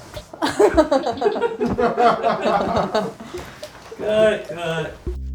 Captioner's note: and crew laugh